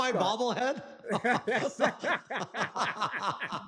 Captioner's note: laughter